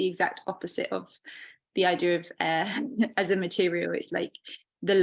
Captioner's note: chuckling